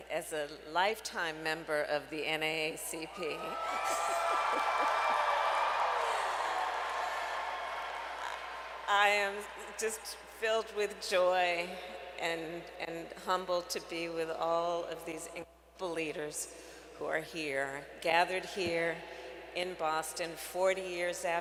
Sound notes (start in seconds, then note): 3.6 applause